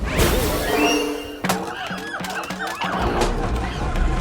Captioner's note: monkeys hooting, shrieking